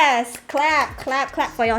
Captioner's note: clap; applause